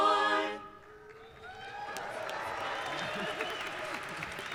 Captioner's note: applauding